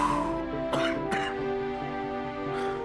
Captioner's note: coughing